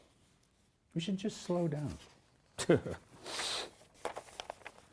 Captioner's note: chuckles